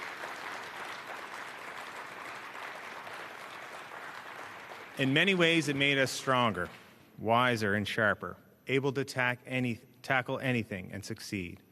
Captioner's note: cheers and Applause